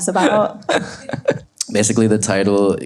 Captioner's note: laughs